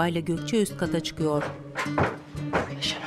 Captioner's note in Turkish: Ayak sesi